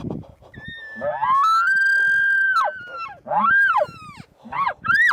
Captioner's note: elk calls bugling